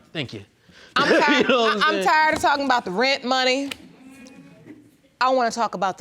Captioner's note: laughs